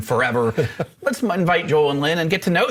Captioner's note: laughs